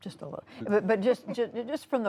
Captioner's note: laughter